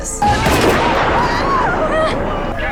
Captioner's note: gun shots; screaming